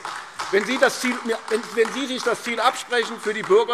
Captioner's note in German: Beifall AfD